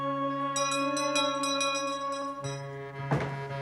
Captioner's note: doorbell ringing